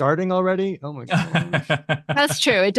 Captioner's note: laughs